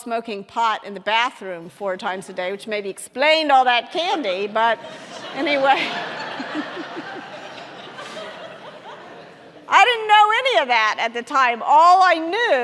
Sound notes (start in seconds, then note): 4.7 audience laughing